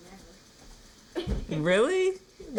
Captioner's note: kid’s laughter